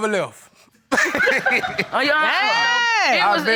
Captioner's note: both laughing